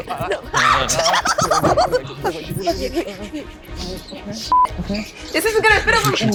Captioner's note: shrieks and giggles